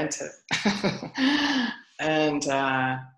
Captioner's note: laughs